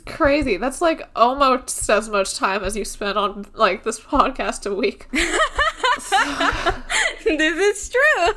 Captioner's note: laughing